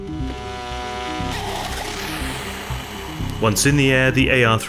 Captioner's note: drone whooshing